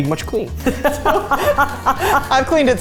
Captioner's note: laughing